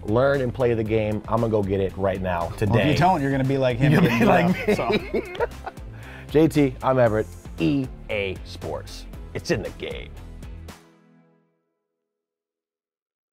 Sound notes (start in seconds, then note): 3.8 laughs